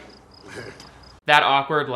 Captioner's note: chuckling